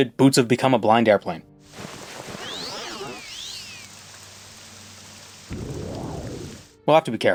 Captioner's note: sounds of becoming a blind airplane